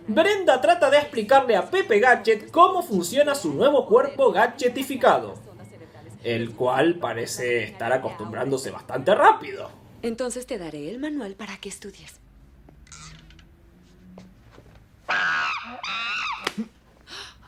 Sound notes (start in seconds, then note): 15.1 monkee noises